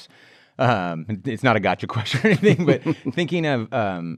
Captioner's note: laughs